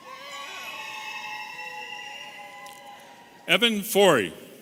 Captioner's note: audience cheering